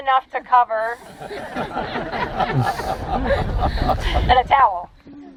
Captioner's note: audience laughing